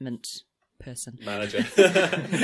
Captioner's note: laughs